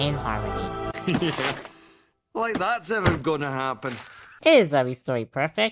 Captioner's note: laughs